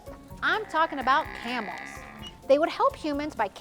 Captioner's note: camels grunting